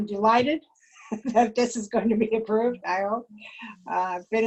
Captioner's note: laughter